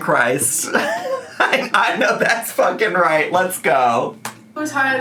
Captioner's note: laughing